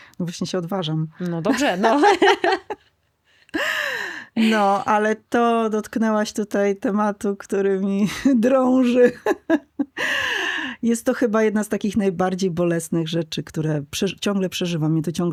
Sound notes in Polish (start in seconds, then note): 1.5 śmiech; 3.4 wciągnięcie powietrza; 8.9 śmiech; 9.9 wciągnięcie powietrza